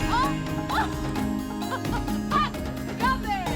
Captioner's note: laughing